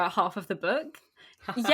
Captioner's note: laughs